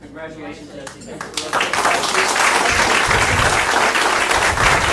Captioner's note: audience applauding